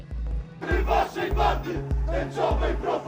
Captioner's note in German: Rufe auf Polnisch